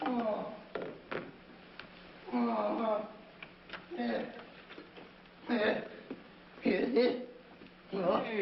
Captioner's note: moaning; moaning